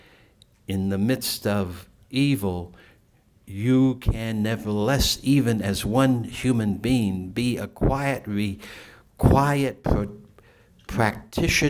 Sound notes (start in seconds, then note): none